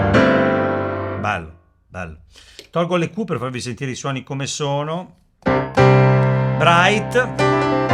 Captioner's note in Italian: sbuffare